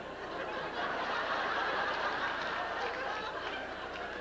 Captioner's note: laughter